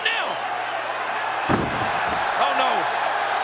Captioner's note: body thuds